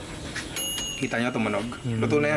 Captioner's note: ting